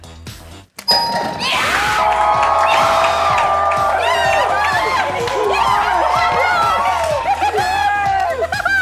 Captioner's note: screaming